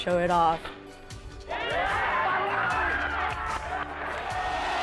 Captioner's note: cheering